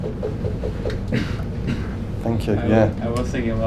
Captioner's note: taps foot